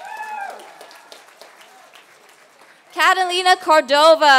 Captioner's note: applause